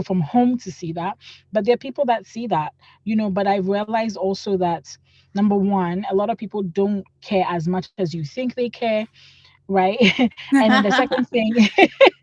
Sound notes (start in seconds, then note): 10.5 laugh